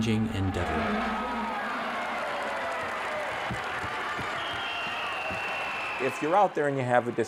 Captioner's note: crowd cheering, ref whistle